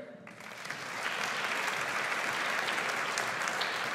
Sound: audience applauds

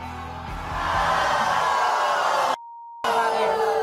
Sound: audience boos

